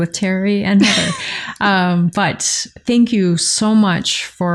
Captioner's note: laughter